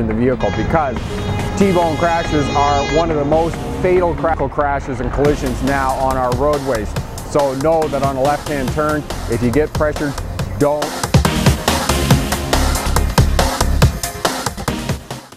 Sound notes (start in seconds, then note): 11.4 horn honking audio donwnloaded from youtube library